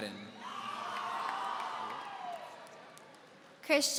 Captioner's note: audience cheering